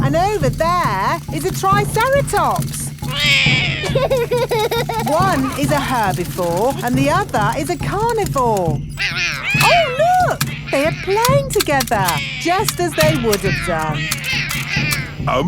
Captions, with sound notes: And over there is a triceratops. -(ROARS) -(LAUGHS) One is a herbivore and the other is a carnivore. Oh, look! They are playing together, just as they would have done.